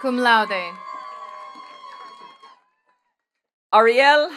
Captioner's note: attendees cheering and clapping